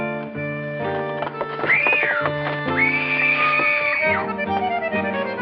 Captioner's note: woman screams